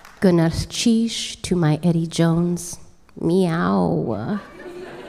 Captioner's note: applause